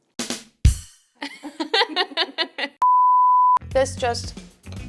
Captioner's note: drum roll sounds; laugh